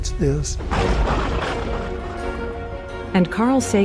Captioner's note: thunder cracking